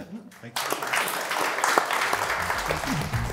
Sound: applause

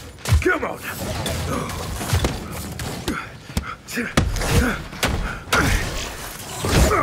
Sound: grunting

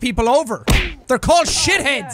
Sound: thwak

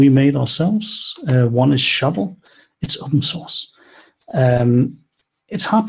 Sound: whispers

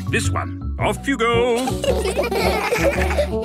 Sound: laughter

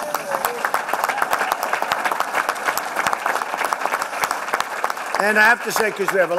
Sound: applause

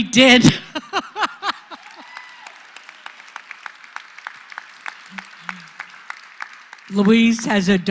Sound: laugh; applause

